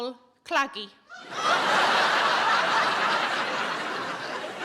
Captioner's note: audience laughing